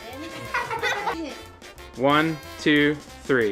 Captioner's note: laughs